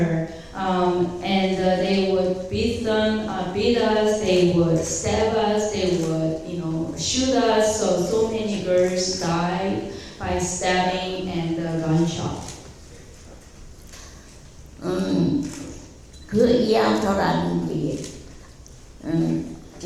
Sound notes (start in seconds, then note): 14.7 speaking in foreign language